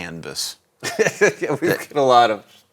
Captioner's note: laughs